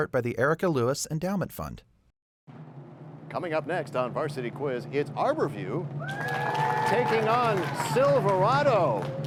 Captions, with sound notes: by the Erika Lewis Endowment Fund. Coming up next on Varsity Quiz, it's Arbor View... (cheers and applause) Taking on Silverado.